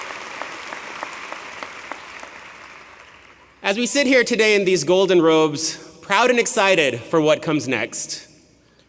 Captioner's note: applause